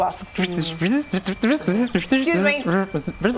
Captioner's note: robot noises